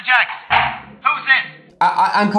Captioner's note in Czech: dveře WC se zavírají